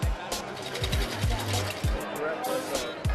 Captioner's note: rattling